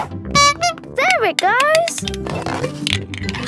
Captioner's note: honking